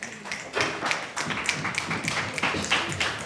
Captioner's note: applause